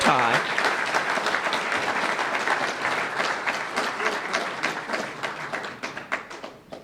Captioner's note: applause